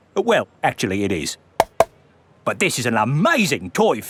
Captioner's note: taps